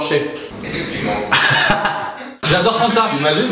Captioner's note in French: rire de Norman